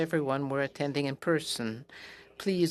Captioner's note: speaking French